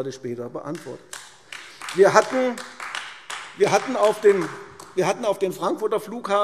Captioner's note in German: Beifall AfD